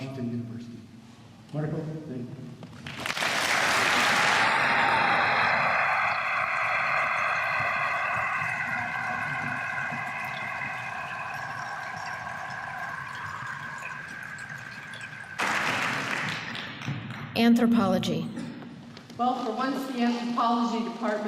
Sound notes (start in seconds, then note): 2.9 applause